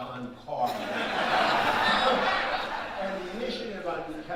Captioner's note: audience laughing